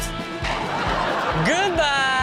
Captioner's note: crowd laughs